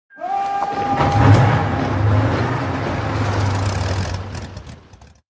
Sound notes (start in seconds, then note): 0.3 marching intensifies